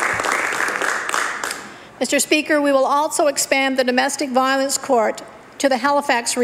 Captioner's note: applause